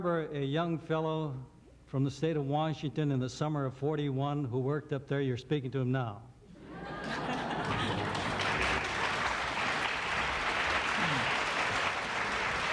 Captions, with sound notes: Do you remember a young fellow from the state of Washington, in the summer of '41 who worked up there, your 'e speaking to him now. (laughter) (applause)